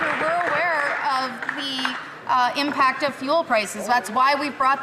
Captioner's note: some Applause